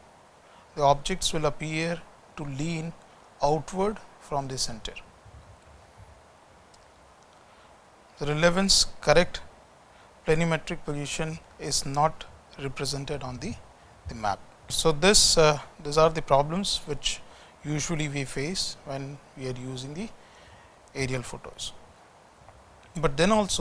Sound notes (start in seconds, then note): 4.2 distortion